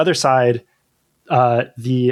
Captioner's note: uh